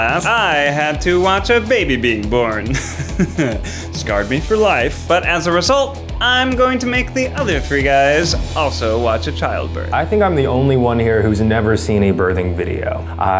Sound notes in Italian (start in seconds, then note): 2.6 risate nervose